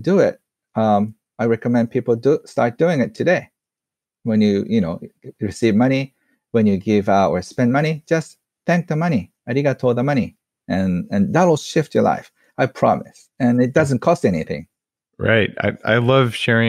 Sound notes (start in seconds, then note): 9.5 in foreign language